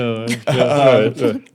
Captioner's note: laughing